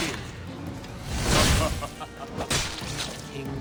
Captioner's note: laughs